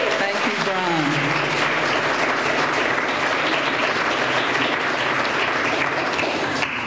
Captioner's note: applause